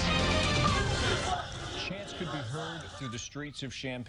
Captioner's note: chants